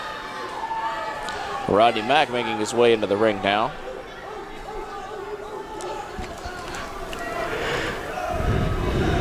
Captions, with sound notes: Rodney Mack making his way into the ring now. (crowd cheering and chanting)